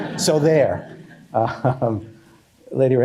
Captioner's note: laughter